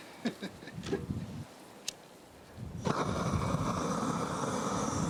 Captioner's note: gas flowing